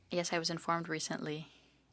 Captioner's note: speaking French